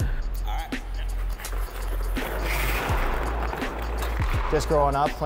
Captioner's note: pucks slamming